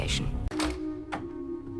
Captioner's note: click, clack